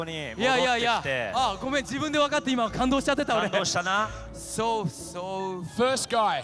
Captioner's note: speaking japanese